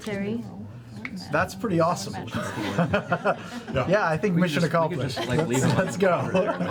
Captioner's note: laughs